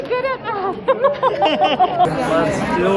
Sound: laughing

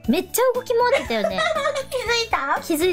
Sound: laughing

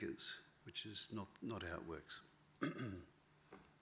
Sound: clears throat

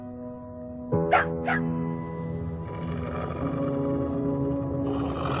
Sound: puppy barks; wolf growls

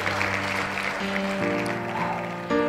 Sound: clapping; piano music

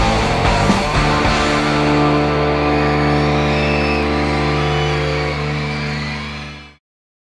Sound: upbeat rock music fades; crowd cheering

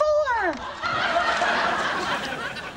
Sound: audience laughing

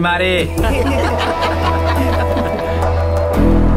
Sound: laughing

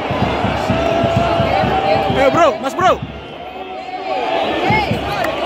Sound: clap

